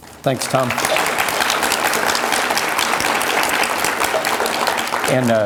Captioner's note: audience applause